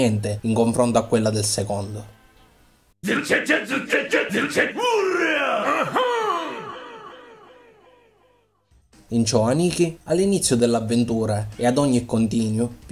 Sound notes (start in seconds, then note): 3.0 ambiguous bodybuilders' cries